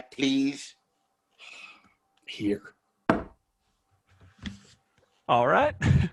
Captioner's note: sighs